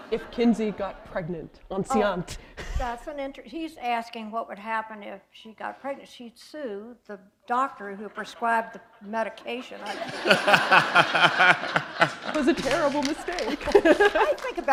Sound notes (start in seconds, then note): 0.0 laughter; 9.3 laughter